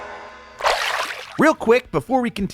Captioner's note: water splashing